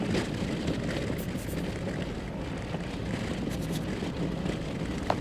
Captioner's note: pencil scribbling